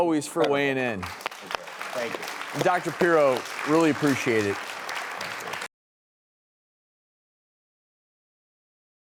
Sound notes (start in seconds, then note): 0.9 audience applause